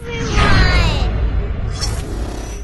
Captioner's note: whooshing; electrical surge